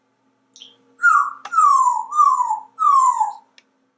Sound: bird whistle sounds

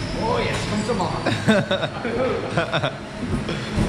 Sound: laughing

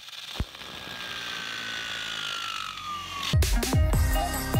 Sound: low electric whine; techno music

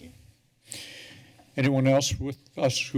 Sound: breaths deeply

